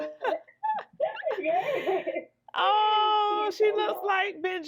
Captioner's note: laughing